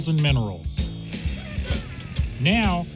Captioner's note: laughs